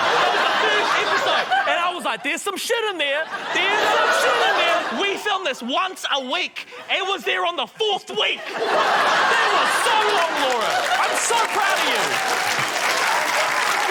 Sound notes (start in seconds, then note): 8.7 laughter; 12.9 applause